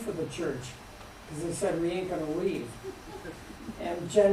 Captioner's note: laughter